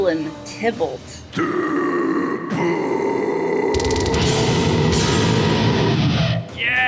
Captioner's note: screaming